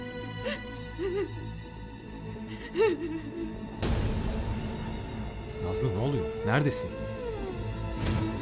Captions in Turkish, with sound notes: [AĞLAMA SESİ] Nazlı ne oluyor? Neredesin?